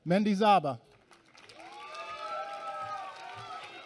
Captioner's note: applause